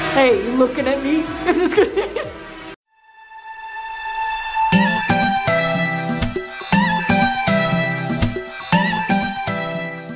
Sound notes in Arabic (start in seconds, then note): 1.4 يضحك; 4.5 موسيقى نطاطة متفائلة